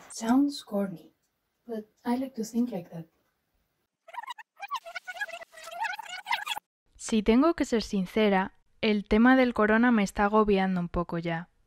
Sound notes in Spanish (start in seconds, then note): 4.0 Sonido de rebobinar